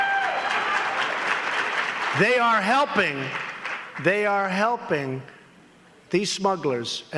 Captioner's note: applause